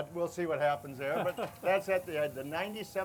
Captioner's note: laughs